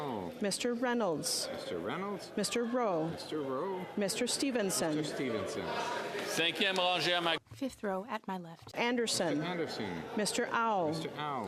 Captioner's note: calling of recorded vote